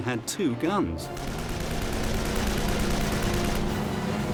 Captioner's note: weapons firing, music playing